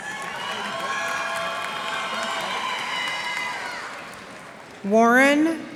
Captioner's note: cheers and applause